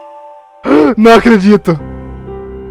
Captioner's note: gasp